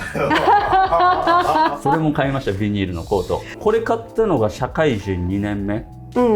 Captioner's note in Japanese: 笑い